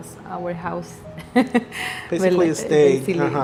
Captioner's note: laughter